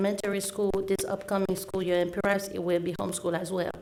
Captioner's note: audio crackling